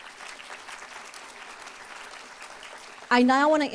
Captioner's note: applause